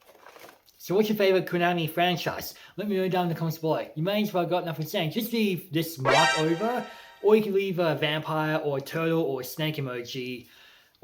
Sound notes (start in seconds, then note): 6.0 alarm sounds